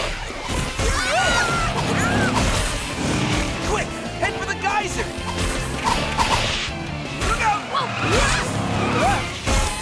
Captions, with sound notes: [screaming] Quick, head for the geyser! - Look out! - Whoa, whoa!